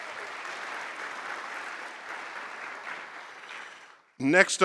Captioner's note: applause